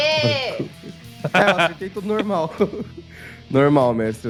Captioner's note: laughs